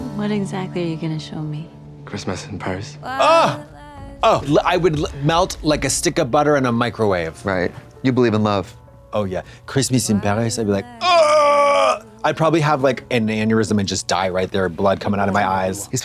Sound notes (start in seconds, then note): none